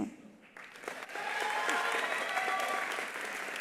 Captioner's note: attendees applauding; attendees cheering